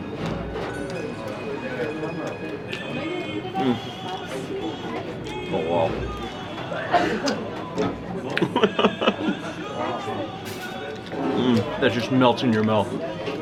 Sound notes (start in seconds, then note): 5.0 chewing and smacking; 8.3 laughs